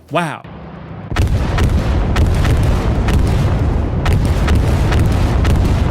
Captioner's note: explosions blasting